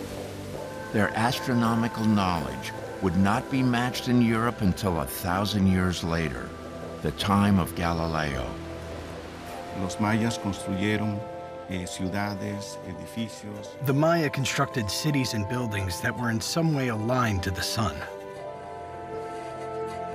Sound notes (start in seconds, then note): 10.4 speaking Spanish